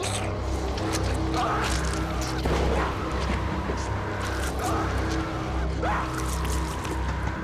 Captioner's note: dramatic music; flesh squelching; Bill screaming